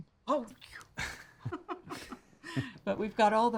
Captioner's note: both chuckling